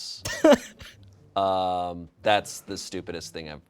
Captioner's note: crew laughs